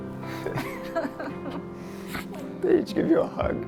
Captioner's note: couple laughs